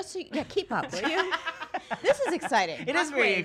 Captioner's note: laughing